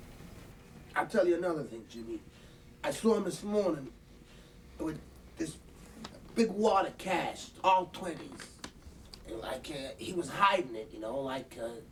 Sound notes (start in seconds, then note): none